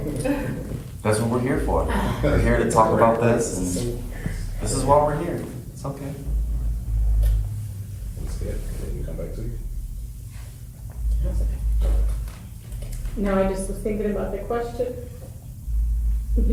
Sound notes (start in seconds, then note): 0.0 several people laugh; 1.8 exhales deeply